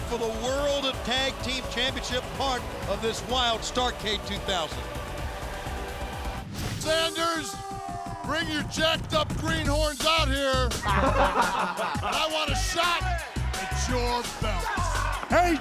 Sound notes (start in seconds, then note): 9.4 Thrillers laugh